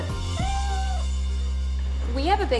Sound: cat meows

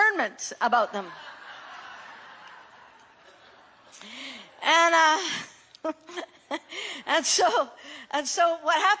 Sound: congregation laughing

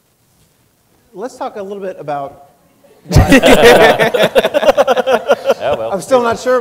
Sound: laughing

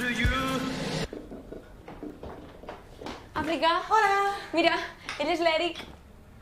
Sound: none

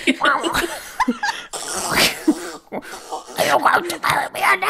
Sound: duck noises

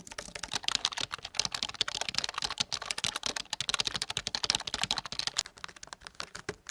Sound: Apple Magic Keyboard Keyboard Typing; Microsoft All-in-One Media Keyboard Typing; iRiver Dicple D1000 Keyboard Typing

